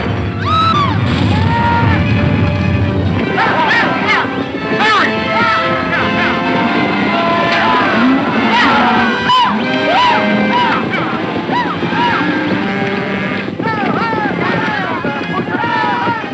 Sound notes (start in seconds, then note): 0.0 crashes; 0.3 screams; 6.3 cowboys shouting; 6.3 galloping hooves